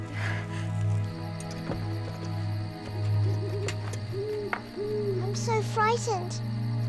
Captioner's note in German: Heuschrecken zirpen; Eulenschrei